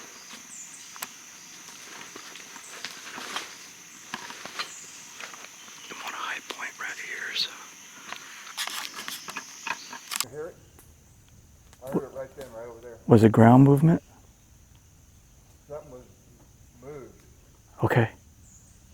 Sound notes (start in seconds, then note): 0.1 birds and bugs chirping; 1.6 equipment shuffling